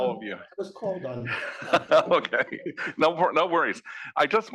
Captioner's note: laugh